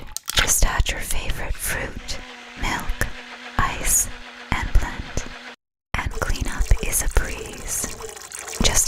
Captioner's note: none